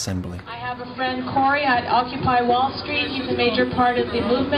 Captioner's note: voiceover